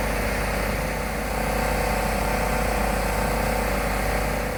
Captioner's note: none